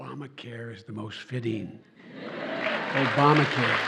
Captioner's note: applause